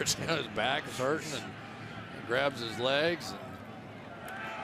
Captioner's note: laughs